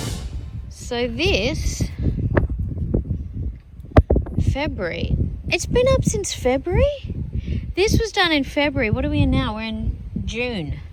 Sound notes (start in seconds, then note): 2.1 wind blusters